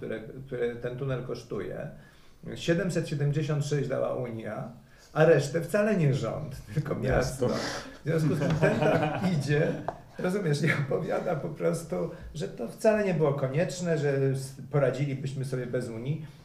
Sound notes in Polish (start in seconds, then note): 8.2 śmiech